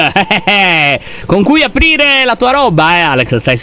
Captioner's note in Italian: risata soddisfatta